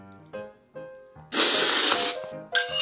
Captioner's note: the sound of eating noodles